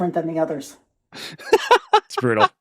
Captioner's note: laughing